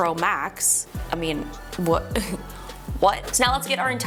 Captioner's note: chuckles